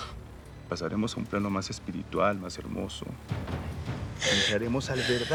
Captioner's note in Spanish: Sollozos